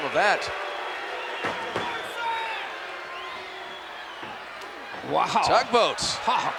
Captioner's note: applause